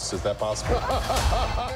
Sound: laughter

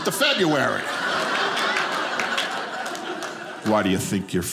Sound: audience laughing

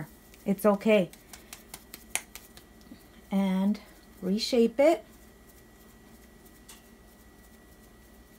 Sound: claps masa into tortilla form

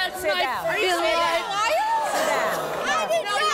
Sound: women yelling

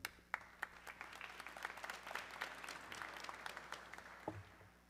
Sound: audience clapping

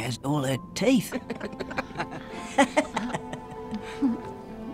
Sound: old women laughing

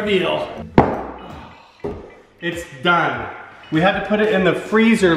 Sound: banging

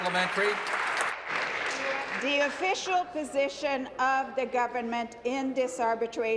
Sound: applause

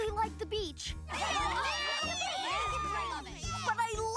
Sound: cheering

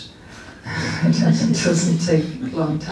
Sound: laughs

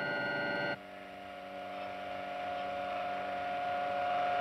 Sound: humming

